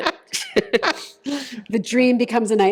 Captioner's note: laughter